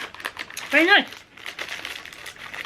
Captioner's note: none